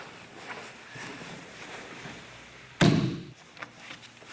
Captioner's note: soft thudding; strong tapping